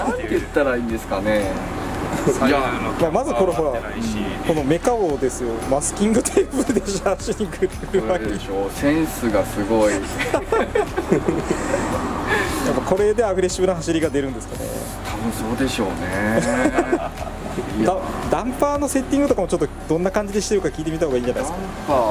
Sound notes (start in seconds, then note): 6.1 laughs; 9.7 laughs; 14.8 laughs